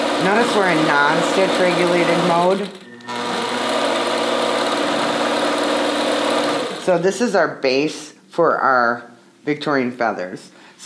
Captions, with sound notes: Notice we're in non-stitch-regulated mode. (machine whirring) So this is our base for our Victorian feathers.